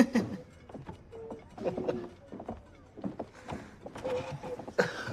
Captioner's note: chuckles